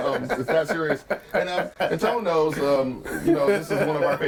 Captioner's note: overlapping laughter an chatter